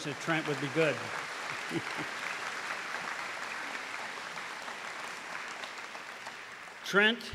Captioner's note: applause